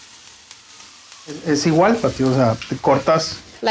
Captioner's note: Spanish